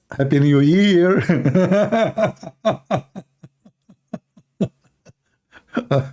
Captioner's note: Ketawa